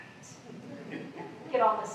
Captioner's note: laughter